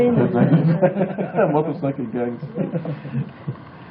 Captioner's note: laughing